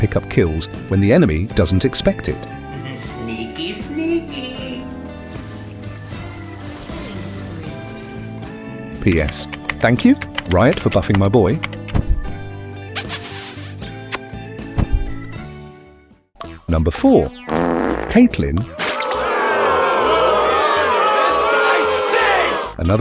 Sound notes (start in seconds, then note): 13.0 kissing sound; 18.7 crowd booing